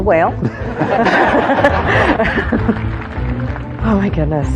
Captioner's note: laughter